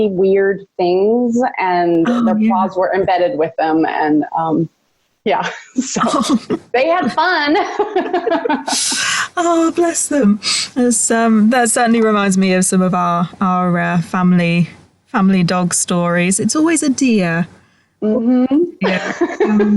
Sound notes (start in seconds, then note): 7.6 laughing